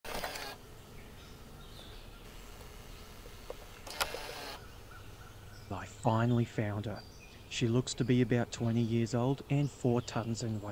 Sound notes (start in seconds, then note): 0.0 camera Sounds; 0.1 background bird sounds